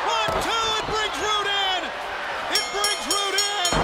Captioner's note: bell ringing